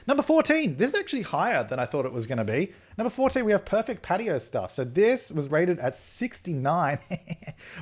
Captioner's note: hehehe